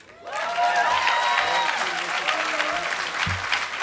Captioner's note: applause